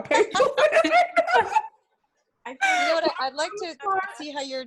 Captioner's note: lots of laughter